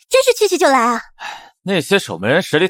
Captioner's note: sighs